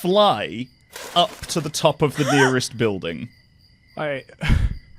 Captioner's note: laughs; chuckles